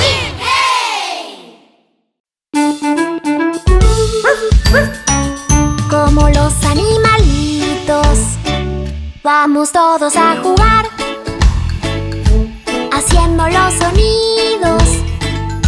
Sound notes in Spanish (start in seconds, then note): 2.4 Música alegre; 4.2 Ladrido